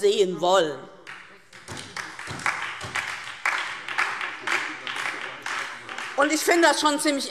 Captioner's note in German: Beifall DIE LINKE und vereinzelt SPD - Zurufe BÜNDNIS 90/DIE GRÜNEN